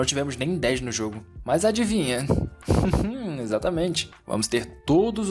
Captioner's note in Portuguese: Risada/Explosão no microfone